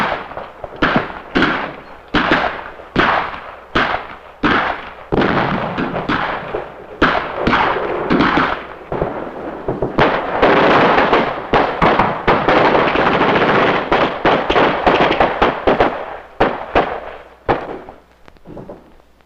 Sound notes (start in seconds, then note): 17.4 guns blasting